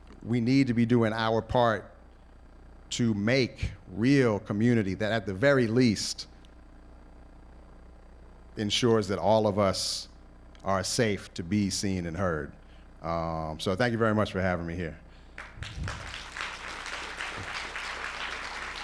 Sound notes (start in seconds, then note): 15.3 applause